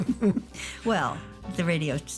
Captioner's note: laughter